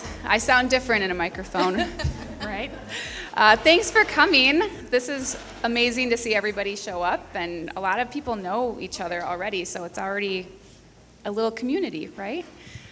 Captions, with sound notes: I sound different in a microphone. (person laughing) Alright. Thanks for coming. This is amazing to see everybody show up and a lot of people know each other already, so it's already a little community, right?